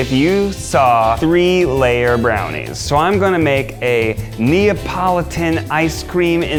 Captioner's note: none